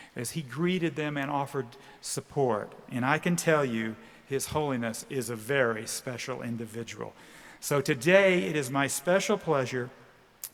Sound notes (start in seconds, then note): none